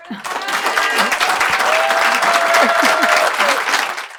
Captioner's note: applause